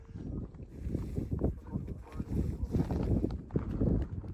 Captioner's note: wind whooshing